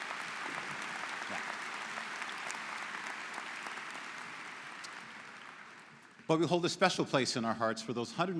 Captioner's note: applause�